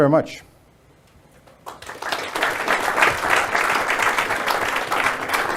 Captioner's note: audience applauds